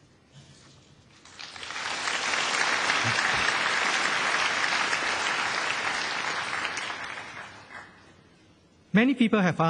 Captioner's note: 掌声